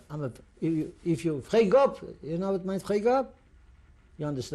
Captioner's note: non-english